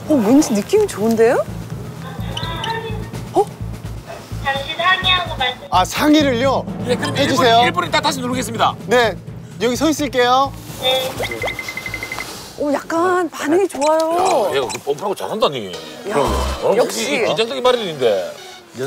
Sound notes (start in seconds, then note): 2.2 murmur/murmur